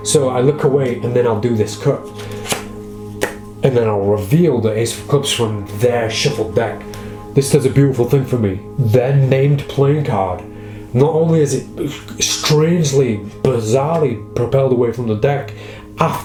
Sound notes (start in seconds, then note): 2.1 cards shuffle and clack